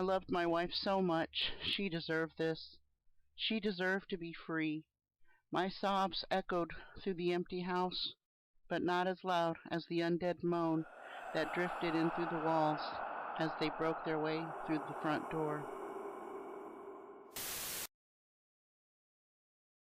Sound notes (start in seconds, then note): 10.2 moan